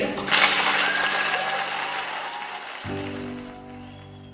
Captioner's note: audience applauds